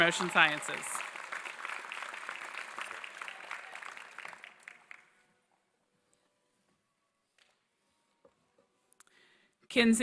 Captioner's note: applause